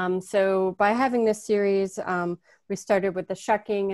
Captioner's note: none